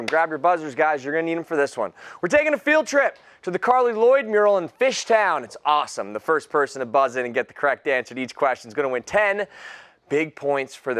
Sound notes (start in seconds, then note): none